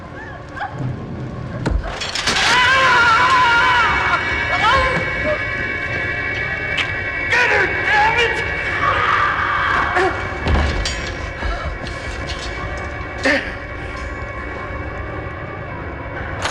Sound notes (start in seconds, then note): 2.3 Lester screams; 2.5 dramatic music; 9.3 Liz screaming; 10.1 clanging